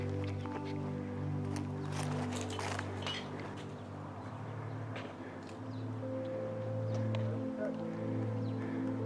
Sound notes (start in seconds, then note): 3.4 gentle music continues; 3.4 tourists chattering